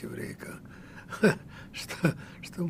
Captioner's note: laughing